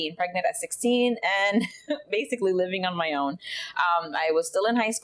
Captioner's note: chuckles